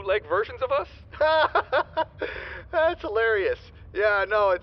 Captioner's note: laughs